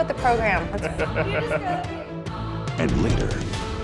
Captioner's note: laughing